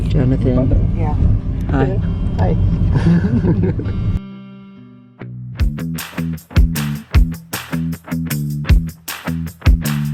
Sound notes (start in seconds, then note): 2.9 laughing; 5.4 groovy upbeat music